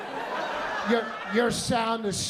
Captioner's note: laughter